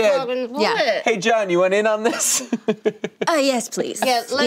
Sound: laughing

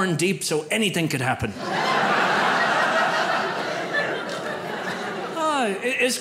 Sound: audience laughs

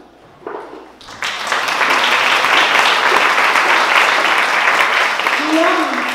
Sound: applause

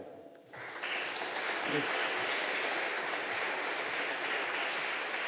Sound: audience applauding

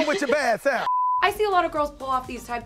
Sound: TV beeps

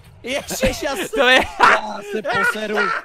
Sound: laugh

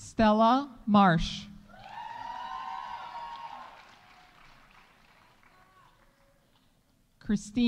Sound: audience cheering; audience applauding

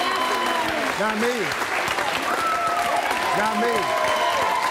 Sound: audience applauding and cheering

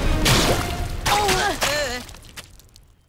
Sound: groaning

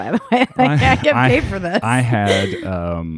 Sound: laughs

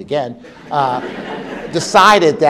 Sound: laugh

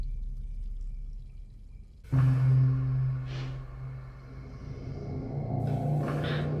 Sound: sniffs; intense music

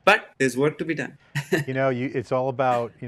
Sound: laughing

